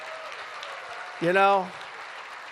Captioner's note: applause